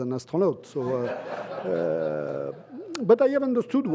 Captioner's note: laughter